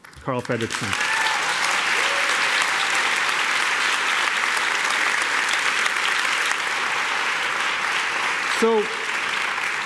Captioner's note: applause